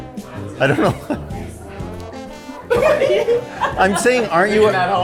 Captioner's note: laughter